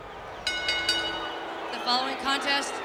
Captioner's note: crowd clamoring; bell ringing